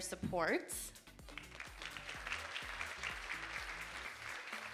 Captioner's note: audience applauding